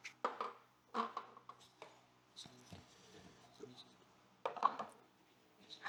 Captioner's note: silence